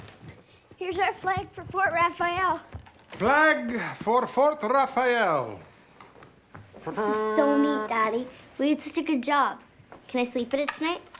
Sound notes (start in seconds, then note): 6.9 mimics fanfare